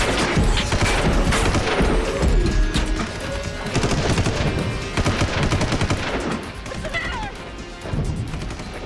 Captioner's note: gunshot